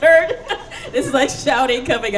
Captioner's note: laughing